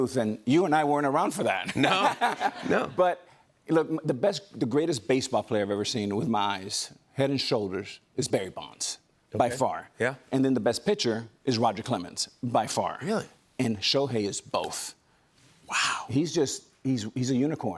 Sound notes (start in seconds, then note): 1.6 laughter